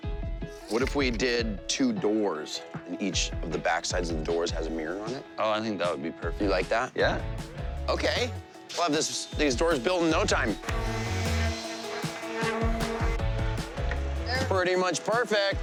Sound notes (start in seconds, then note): 9.7 buzzing